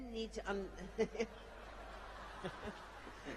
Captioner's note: laughter